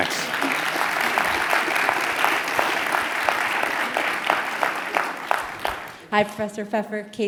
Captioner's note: applause